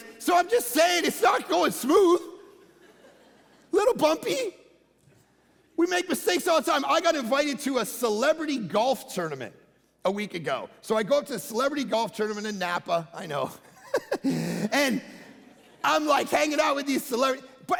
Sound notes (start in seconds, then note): 13.7 giggling